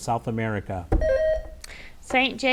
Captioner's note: bell rings